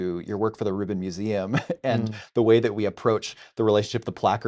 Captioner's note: laughing